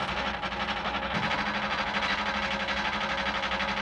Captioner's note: engine rattling